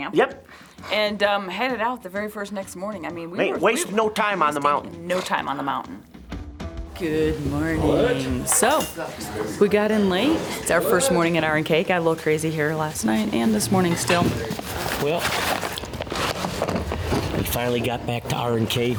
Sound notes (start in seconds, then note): 7.7 people chattering; 14.7 objects rattling and knocking